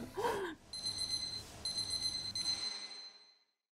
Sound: chuckles; gentle music; alarm beeping

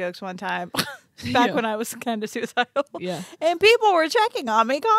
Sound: laughs

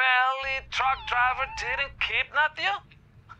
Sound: cat's meow

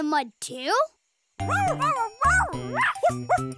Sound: barking

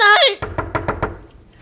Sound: knock on door

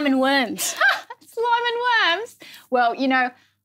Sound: laughs

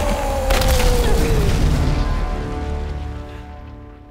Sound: mountain explodes

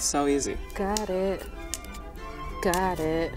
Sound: snapping

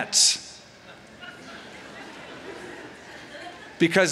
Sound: laughter

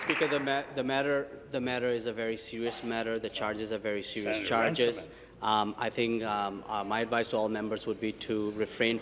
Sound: applause

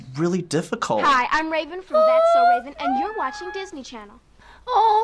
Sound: squeals

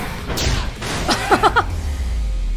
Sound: laughs

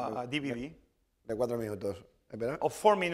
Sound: speaking spanish

